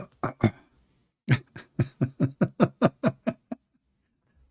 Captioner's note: laughing